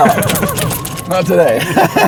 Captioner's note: laughs